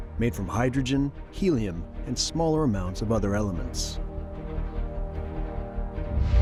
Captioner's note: none